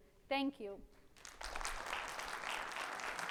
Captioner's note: audience applauds